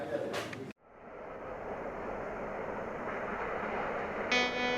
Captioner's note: waves crashing; bright music